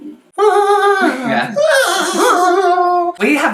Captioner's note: Satanic Noises